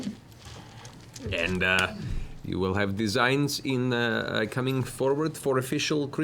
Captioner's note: funny accent